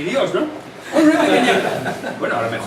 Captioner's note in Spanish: risas